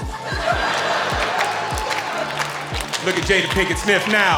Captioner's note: audience laughing